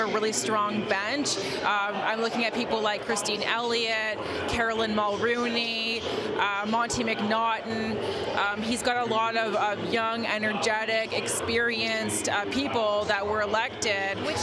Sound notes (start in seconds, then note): none